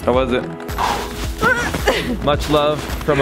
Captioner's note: blowing; grunts